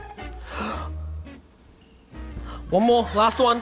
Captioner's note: gasps